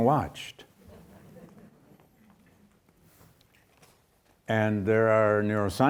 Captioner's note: audience chuckles